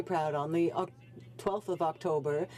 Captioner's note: speaking French